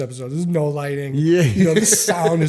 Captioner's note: chuckle